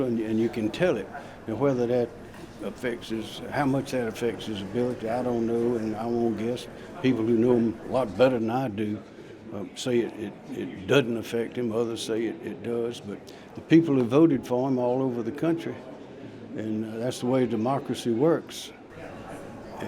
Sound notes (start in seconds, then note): none